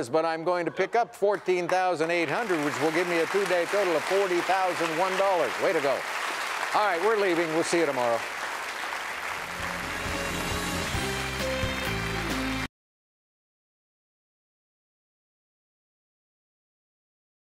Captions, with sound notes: but I'm going to pick up $14,800, which will give me a two-day total of $40,001. Way to go! All right, we're leaving, we'll see you tomorrow. (audience applauding) (upbeat music)